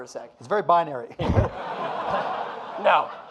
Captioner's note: audience laughing